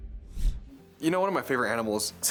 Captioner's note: logo whooshes